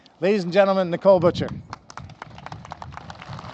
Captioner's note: applause